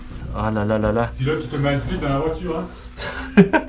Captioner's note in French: rires